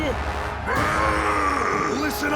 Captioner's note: roaring